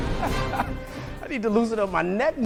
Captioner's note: laughing